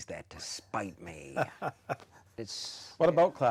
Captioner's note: laughing